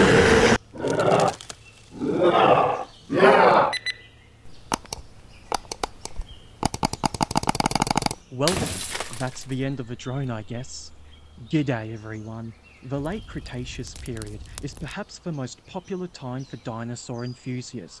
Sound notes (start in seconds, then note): 0.0 scary dinosaur sounds; 5.2 furious flicking sounds; 6.7 furious flicking sounds intensifies